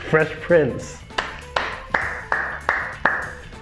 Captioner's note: claps